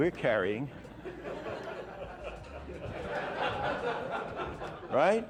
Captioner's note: audience laughing